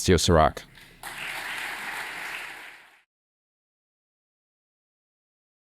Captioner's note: applause